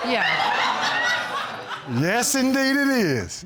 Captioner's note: audience laughing